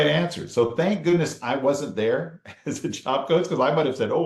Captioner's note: chuckles